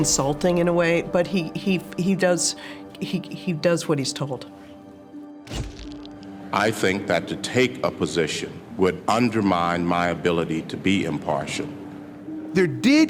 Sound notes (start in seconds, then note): 5.9 shutter clicks